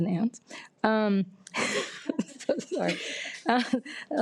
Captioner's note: laughs